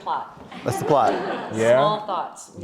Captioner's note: audience laughs